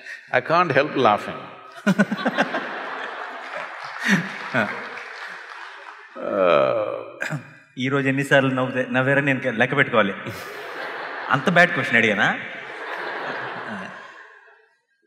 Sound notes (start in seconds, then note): 1.8 laughter/Applause; 10.2 laughter